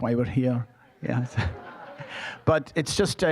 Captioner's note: audience laughing